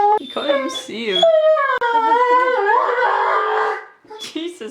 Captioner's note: tries to comfort crying dog